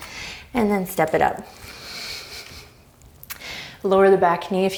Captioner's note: deep breaths